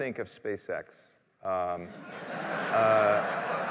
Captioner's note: laughter